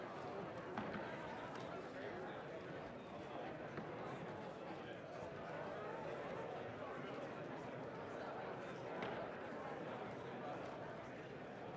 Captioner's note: crowd Noise